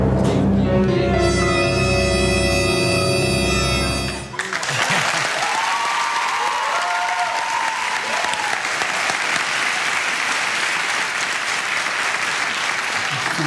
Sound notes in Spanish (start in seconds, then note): 0.0 música de suspenso; 4.3 aplausos